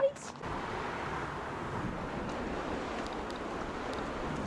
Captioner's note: wind howling